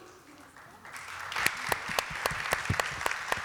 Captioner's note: applause